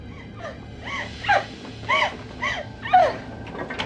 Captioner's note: woman sobbing